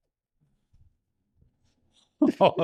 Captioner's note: laughing